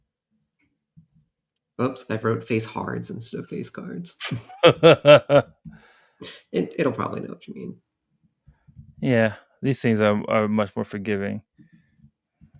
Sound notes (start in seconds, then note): 4.2 laughter